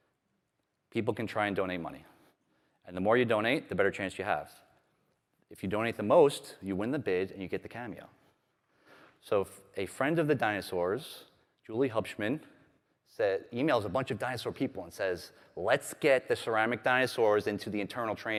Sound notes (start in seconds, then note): none